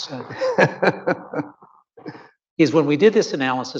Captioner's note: laughs